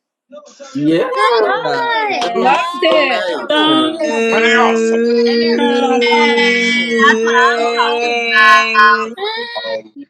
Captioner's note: cheering